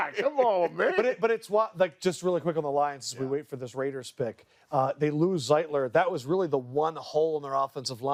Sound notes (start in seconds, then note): 2.1 laughter